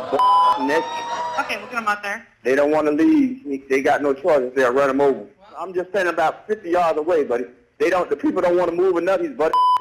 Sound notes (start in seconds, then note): 1.7 female operator speaking